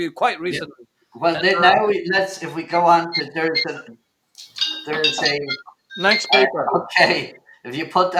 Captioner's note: phone rings